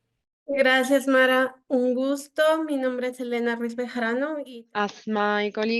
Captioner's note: speaking in foreign language